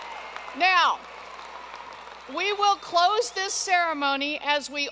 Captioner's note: cheers and applause